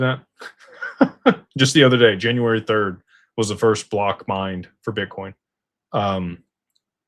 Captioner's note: laughter